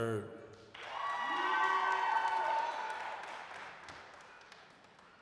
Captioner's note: applause, cheering